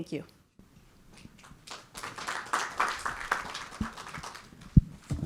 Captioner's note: audience clapping